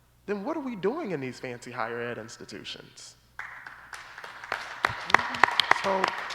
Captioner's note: applause